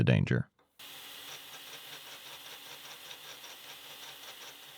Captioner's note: machine whirring